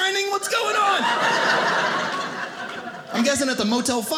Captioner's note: audience laughing